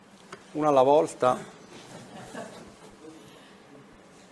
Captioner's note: laughter